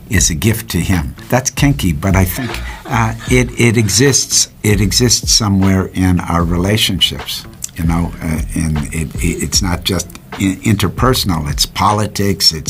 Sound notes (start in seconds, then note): 2.2 laughs